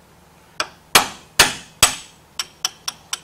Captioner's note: hammering Noise